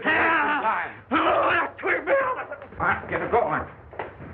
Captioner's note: grunting, struggling